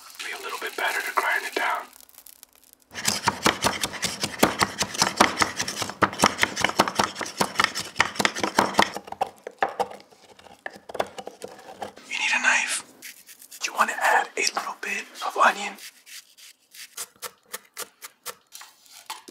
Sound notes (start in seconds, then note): 2.9 bangs pilón; 13.0 back and forth slicing; 17.0 steady chopping; 18.4 scrapes